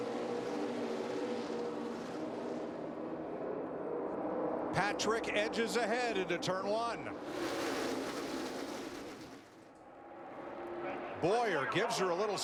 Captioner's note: engines roar